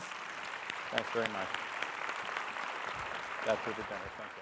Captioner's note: audience applauding